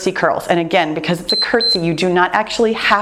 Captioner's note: timer beeps